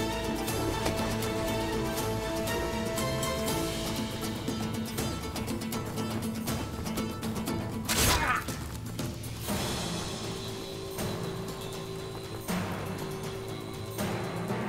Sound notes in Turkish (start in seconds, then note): 7.9 Kılıç sesi; 12.1 Müzik - Hareketli